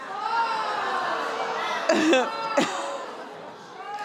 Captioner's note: audience groaning